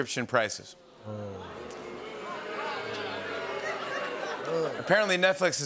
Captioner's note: audience booing